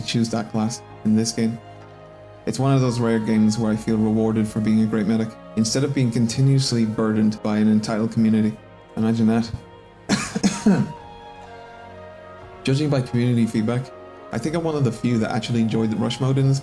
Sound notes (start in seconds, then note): 10.0 cough